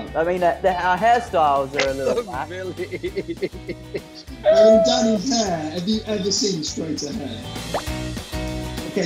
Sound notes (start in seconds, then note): 1.8 laughing